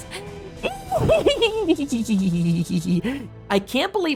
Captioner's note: evil cackling